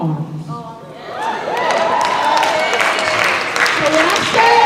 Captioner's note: cheering